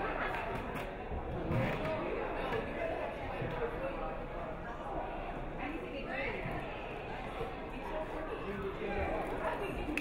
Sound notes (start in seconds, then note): none